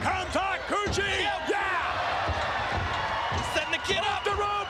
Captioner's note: spectators cheering